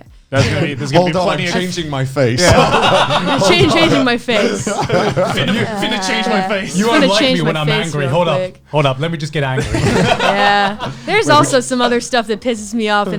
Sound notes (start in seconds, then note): 2.9 laughs; 9.5 laughs